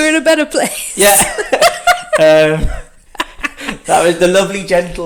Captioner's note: both laugh